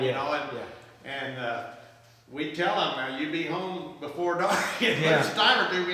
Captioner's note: laughs